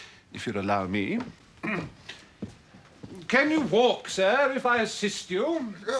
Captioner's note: clears throat